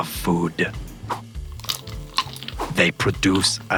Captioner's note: crunch, crunch